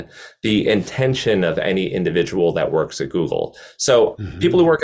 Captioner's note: mm-Hmm